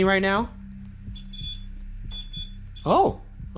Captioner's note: beep